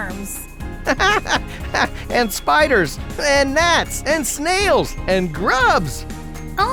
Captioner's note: laughing